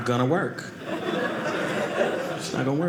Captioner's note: audience laughing